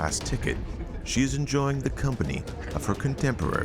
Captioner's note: patrons chatting